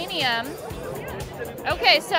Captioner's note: crowd chattering indistinctly